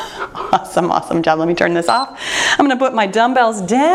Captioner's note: timer beeps